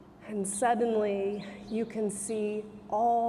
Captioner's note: none